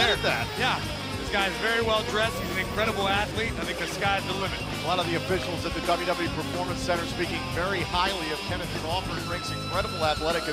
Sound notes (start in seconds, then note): none